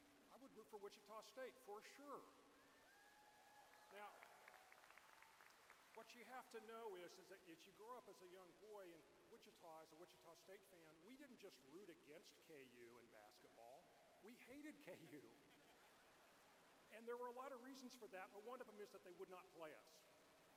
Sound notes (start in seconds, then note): 6.1 cheers; 8.1 applause